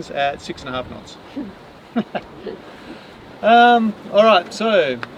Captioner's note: both laugh